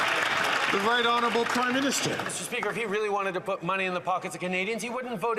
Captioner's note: some Applause